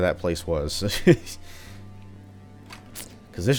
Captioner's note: laughs